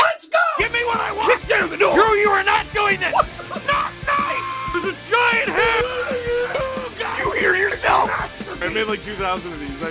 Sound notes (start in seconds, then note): 3.6 screaming; 6.1 Harry potter screaming